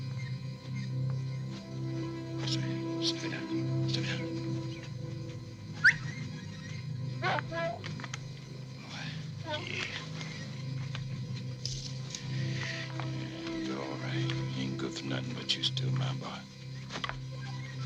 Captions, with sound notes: Stay down, stay down. (Booker T whistles) (dog barks) Good boy, yeah. Yeah, you're all right. You ain't good for nothing, but you still my boy.